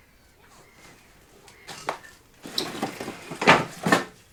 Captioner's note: heavy sewing machine noise